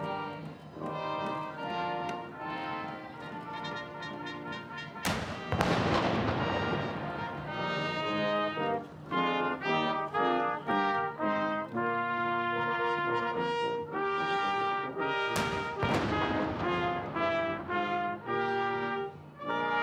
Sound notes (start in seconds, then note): 3.9 gun salute